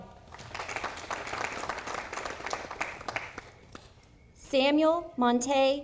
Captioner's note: audience applauding